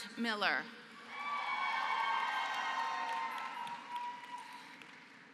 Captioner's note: applause